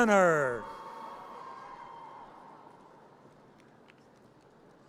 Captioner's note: audience cheers